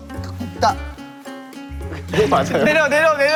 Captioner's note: failed to contain his laugh